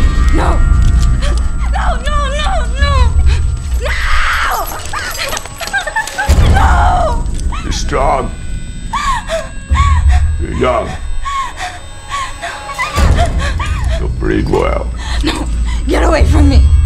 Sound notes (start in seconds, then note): 4.9 sobbing; 8.9 rocky whimpering